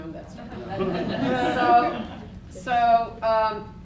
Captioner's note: laughter